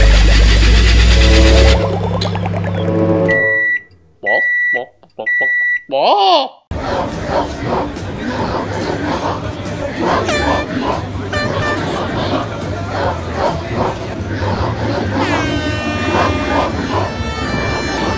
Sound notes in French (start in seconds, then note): 4.5 bip bip bip